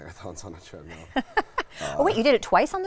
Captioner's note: laughs